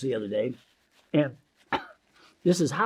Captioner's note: paper crinkling; coughs